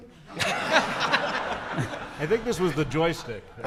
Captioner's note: audience laughing